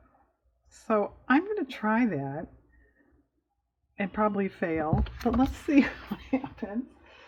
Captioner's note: laughs